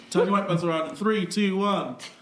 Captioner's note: laughing